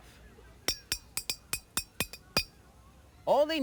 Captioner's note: glass clinks